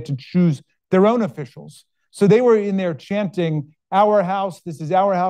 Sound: none

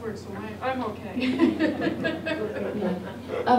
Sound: laughs

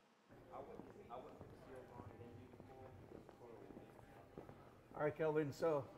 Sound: background Conversation

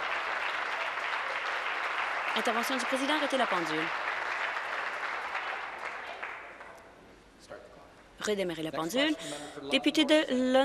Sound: applause

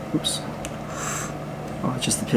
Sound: inhales

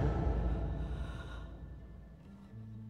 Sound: heavy breathing

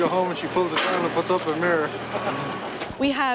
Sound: laughs

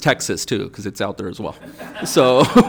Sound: audience laughing

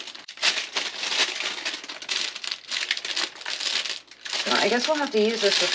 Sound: plastic wrapper crinkling

